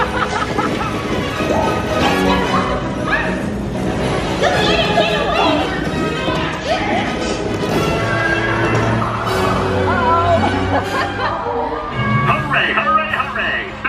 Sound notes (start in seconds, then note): 0.0 laughs; 8.3 horses neighing; 8.3 lassos whipping; 11.3 laughs; 11.9 dramatic adventurous music